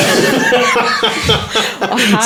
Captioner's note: laughing